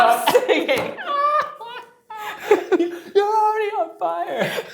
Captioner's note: laughs